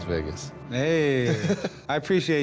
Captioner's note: laughs